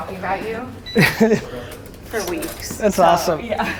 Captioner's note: Gary laughs